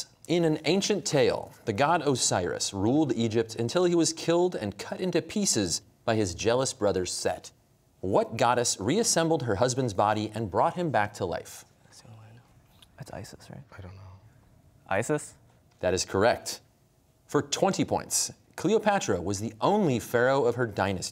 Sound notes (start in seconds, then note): 12.0 whispering; 12.6 quietly